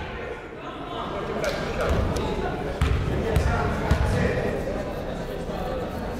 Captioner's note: people talking in the crowd